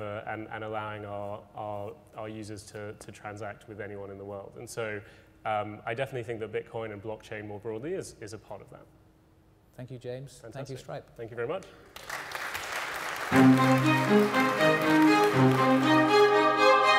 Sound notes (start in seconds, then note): 11.8 audience clapping; 13.3 dramatic string music